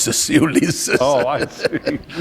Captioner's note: laughter